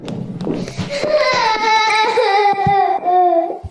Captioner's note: crying